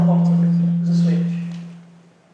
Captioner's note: voiceover